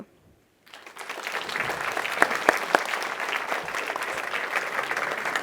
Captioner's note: audience applauding